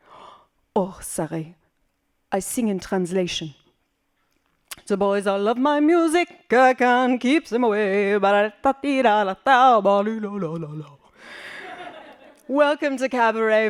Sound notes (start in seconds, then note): 3.2 singing; 11.5 laughing